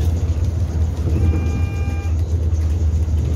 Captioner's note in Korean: 하차벨 소리